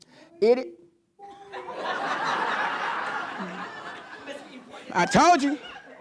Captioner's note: on video rewind